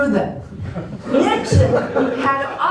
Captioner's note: laughter